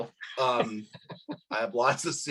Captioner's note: laughs